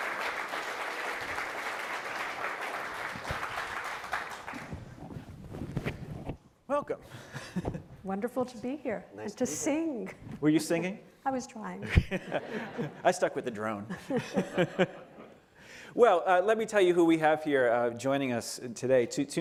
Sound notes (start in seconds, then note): 3.8 applause; 13.8 laughter